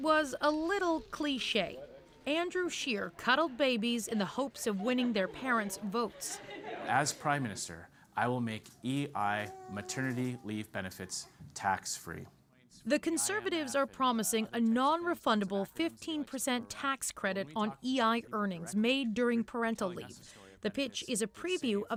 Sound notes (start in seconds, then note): 2.1 laughter